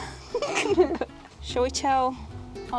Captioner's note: giggling